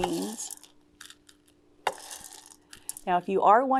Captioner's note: beans clatters